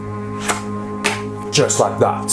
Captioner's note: flicking